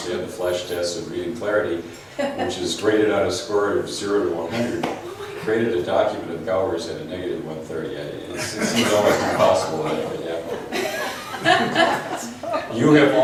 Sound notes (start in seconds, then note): 5.4 voiceover; 8.3 laughs; 12.4 laughs